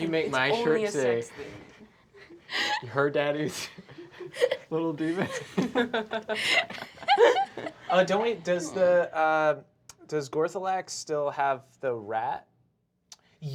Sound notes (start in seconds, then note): 2.2 laughs; 5.9 laughter